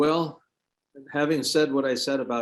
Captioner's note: sighs